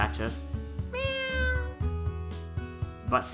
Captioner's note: meow